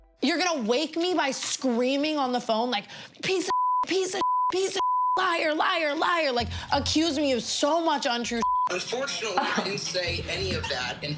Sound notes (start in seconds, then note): 4.7 beep; 8.4 beep